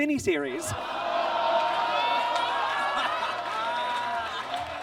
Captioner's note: audience groans